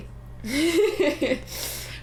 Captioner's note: laughter